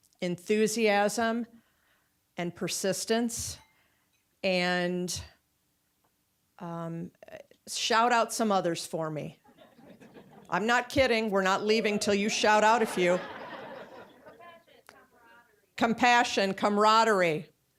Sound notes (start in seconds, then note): 9.5 audience chuckling; 13.4 audience laughing